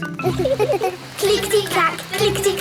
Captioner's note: laughing